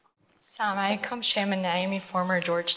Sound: foreign language

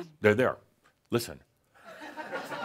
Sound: laughter

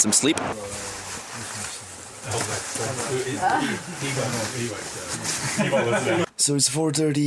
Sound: chatter and Laughing

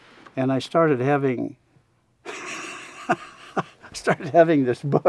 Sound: laughs

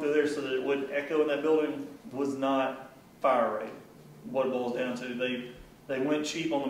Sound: none

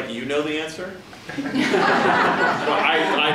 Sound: laughing

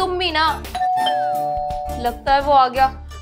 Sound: door Bell Rings

